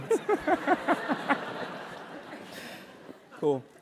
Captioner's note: laugh